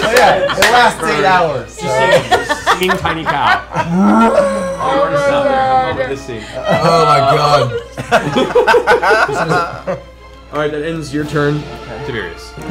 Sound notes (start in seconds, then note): 6.6 laughter